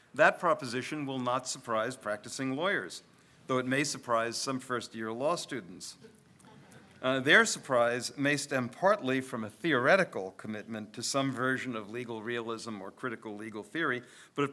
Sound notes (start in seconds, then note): 6.3 audience laughs